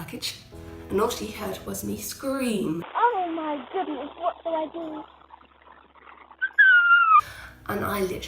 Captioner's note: screams